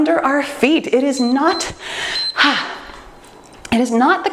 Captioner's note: timer beeps